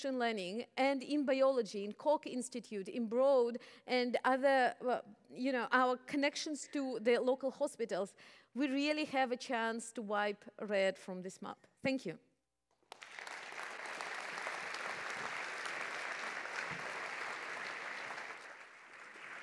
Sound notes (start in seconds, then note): 12.8 applause